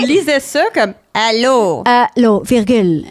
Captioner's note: in french; robot voice